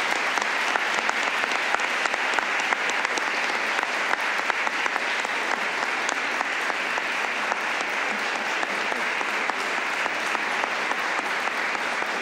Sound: applause

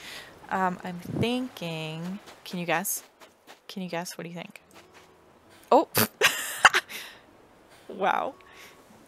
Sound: obnoxious laugh

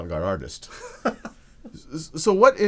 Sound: laughs

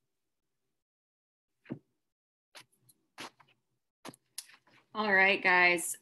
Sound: silent

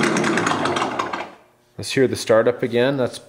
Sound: engine turning off

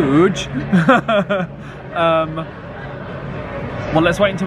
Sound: laughing

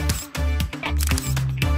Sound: snap!

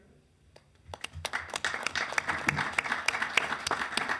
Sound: applause

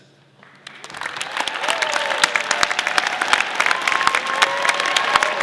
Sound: audience applauding

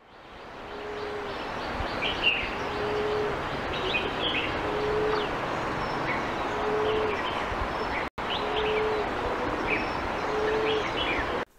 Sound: low Cooing sound

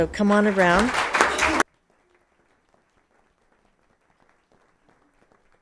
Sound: audience applauding

